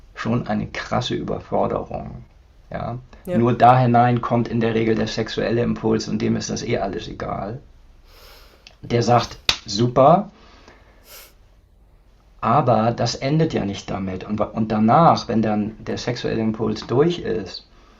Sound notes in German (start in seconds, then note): 8.2 schnauben